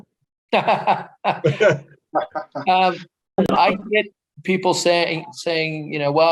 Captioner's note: laughs